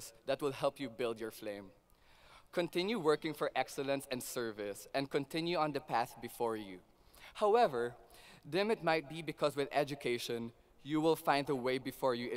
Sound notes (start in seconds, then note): none